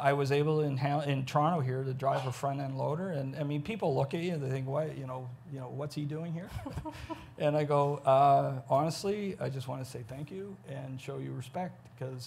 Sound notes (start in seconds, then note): 6.4 chuckles